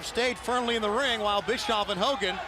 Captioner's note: crowd cheering